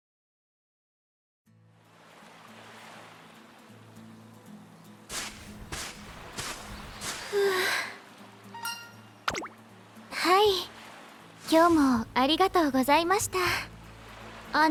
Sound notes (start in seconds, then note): 7.2 exhale